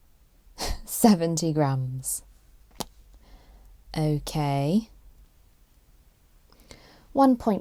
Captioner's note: pops lips